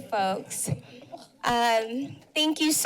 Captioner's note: background chatter